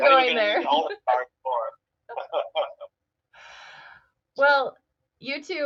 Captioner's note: chuckles